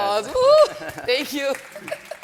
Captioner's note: laughs; audience applauding; laughs